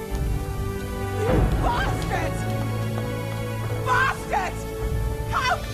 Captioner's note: shouts